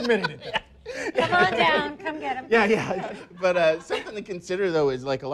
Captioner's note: laughs